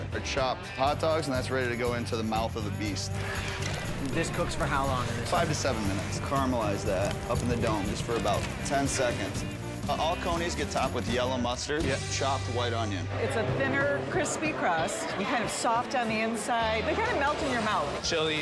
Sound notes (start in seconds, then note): 3.2 spatula scrapes softly; 6.0 fire crackles